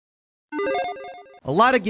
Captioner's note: electronic chiming